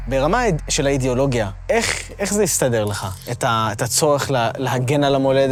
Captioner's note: speaking in foreign language